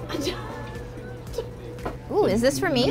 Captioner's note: laughing